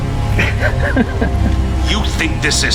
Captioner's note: Hawk laughs